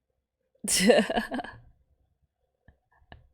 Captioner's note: laughs